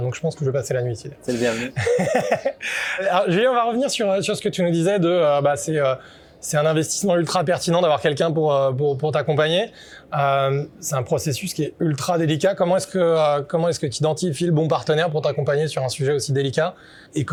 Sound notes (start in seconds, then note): 1.3 laughs